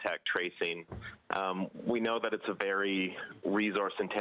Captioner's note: speaking French